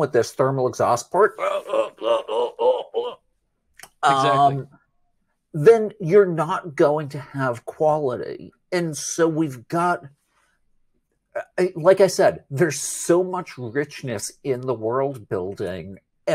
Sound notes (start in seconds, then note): 1.3 makes choking noises